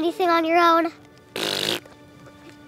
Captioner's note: spitting sound